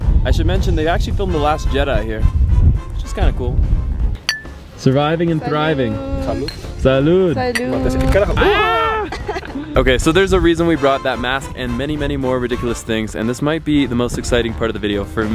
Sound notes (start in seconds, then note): 4.2 cups clinking; 7.2 speaks foreign language; 7.5 cups clinking